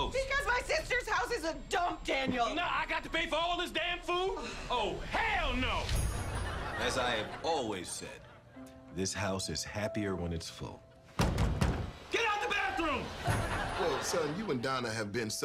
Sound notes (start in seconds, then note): 4.3 scoffs; 6.2 audience laughter; 11.1 knocking; 12.7 audience laughter